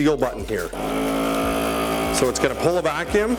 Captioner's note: machine buzzing